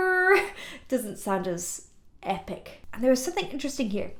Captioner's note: laughing